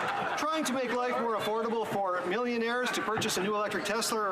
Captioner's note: some Laughter